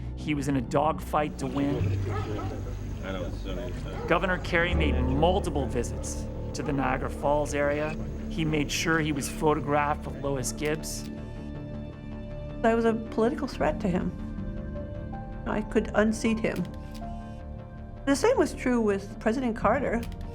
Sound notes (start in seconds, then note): 2.6 talking softly; 10.7 camera shutter clicks; 16.5 shutter clicks; 20.0 shutter clicking